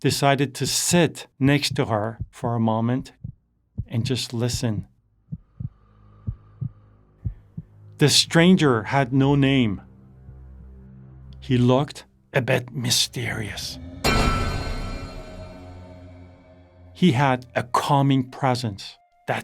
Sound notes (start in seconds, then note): 13.6 pipe clanging; 18.5 gentle music